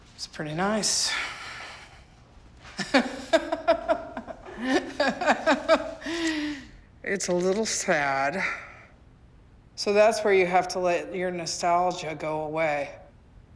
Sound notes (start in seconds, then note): 2.7 laughing